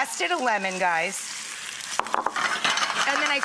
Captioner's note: sizzling